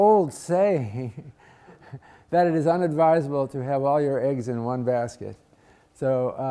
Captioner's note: laugh